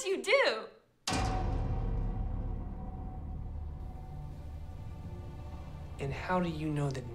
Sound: clang

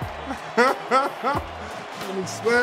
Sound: laughing

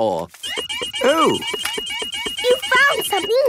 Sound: beeping

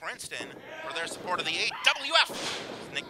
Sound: floor rumbling

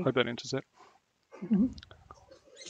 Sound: laughs

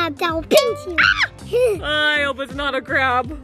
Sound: scream

